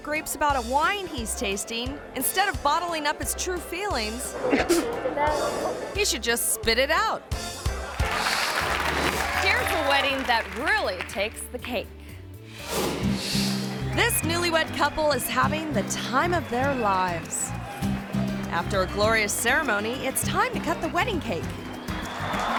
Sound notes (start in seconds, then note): 4.6 coughs; 7.5 audience applauding; 22.3 crowd cheering